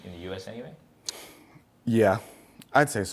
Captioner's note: sighs